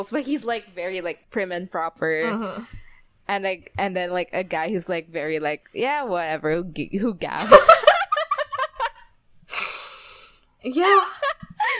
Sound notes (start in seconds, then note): 8.0 both laughing